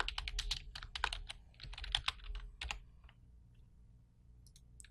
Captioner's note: typing on keyboard